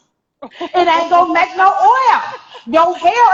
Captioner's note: laughing